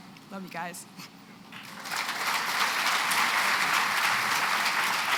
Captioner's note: applause